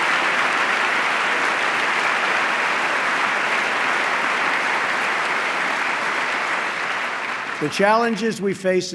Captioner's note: applause